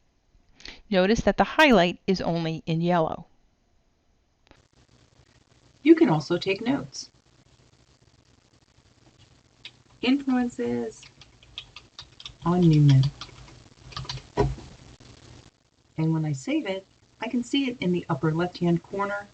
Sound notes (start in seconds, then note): 10.8 typing in note box